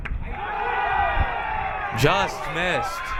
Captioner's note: crowd cheering